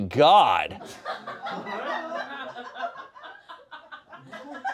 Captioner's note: audience laughing